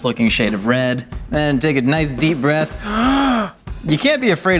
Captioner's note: inhales deeply